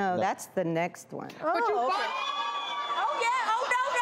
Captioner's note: audience screams